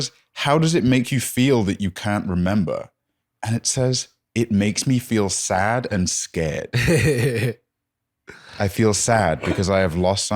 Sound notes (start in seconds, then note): 6.8 laughs